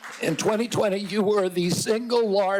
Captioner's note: applause